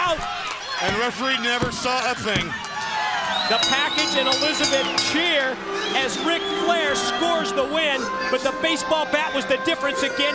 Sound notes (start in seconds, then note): 3.5 bell ringing